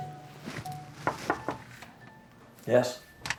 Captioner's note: gently knocking